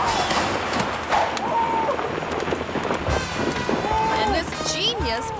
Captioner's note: resident yelling; screen whooshes